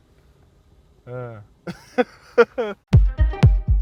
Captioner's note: laughs